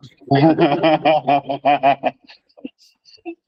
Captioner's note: laughter